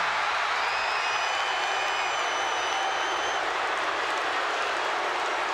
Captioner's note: audience applauds and cheers